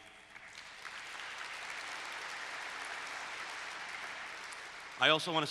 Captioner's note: applause